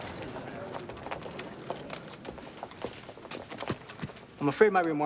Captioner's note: footstep